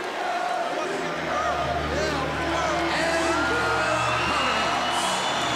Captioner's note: crowd cheering